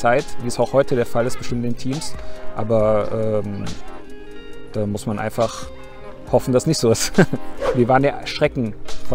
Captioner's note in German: lacht